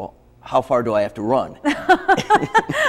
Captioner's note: both laugh